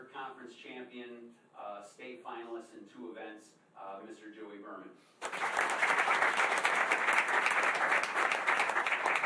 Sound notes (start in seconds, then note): 5.2 applause